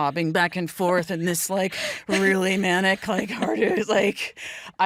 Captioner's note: elizabeth chuckles